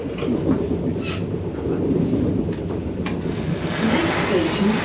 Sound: train rumbles

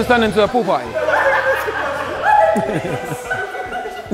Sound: group laughs

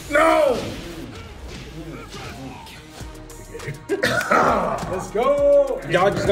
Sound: laugh

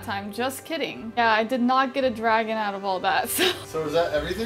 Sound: laughs

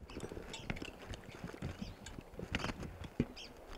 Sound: bird chirping

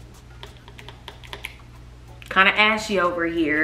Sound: bottle squirting

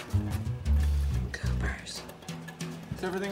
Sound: whispering

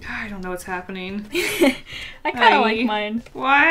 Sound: laughs

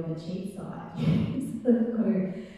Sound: laughing

